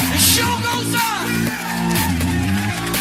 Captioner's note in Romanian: Aplauze